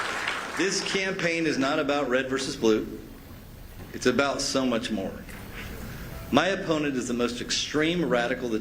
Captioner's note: cheers